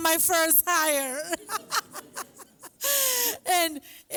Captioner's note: laughs